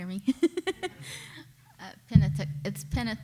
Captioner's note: laughing